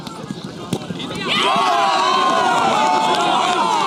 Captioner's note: cheering